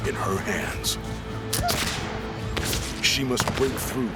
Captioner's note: gunfire